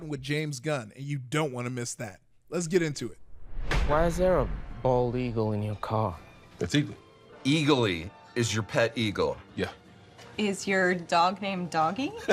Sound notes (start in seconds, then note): 3.1 air whooshing